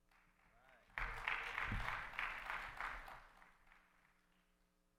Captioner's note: audience applauds